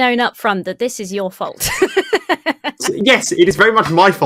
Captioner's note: laughs